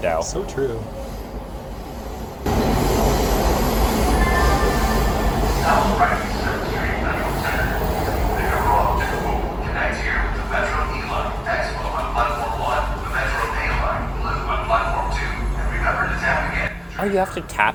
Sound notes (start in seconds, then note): 1.3 pa system